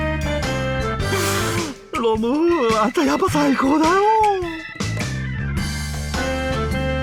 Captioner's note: sniffle